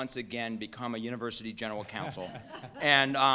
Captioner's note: laughter